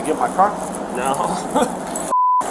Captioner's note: laughs